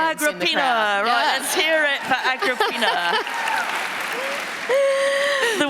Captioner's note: laughter